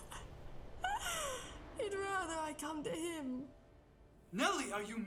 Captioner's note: laughs